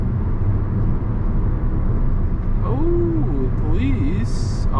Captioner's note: car engine revs